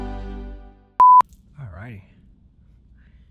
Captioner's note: beep